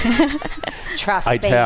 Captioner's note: laughter